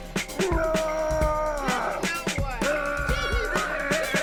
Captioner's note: grunts; kids cheering